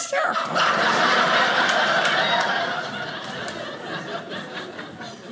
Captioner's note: audience laughing